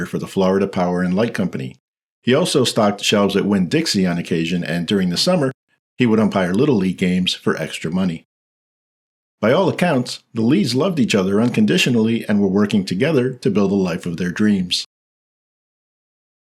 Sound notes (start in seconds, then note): none